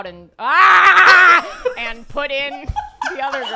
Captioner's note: screams